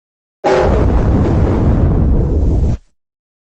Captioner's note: Giga Zalgo Windows XD Random Edition Shutdown Sound